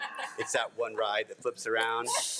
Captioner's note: board of trustees laugh